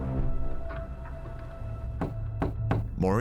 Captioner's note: fist knocking on door